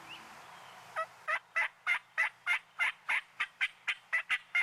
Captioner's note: turkey gobbles